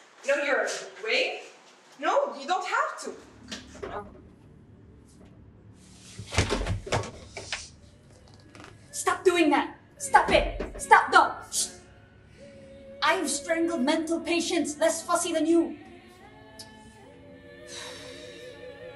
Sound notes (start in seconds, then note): none